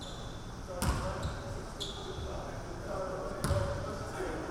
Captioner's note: people chattering